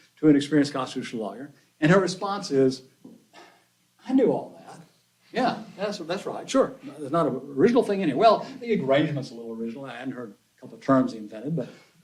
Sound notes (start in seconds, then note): 3.3 scoffs